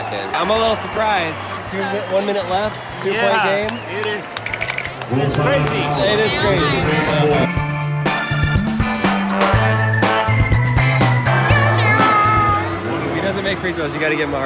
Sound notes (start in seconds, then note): 4.2 chattering; 7.5 upbeat music